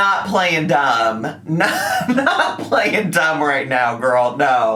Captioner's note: laughing